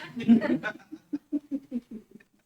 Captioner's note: laughs